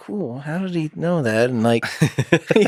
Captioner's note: Lex laughs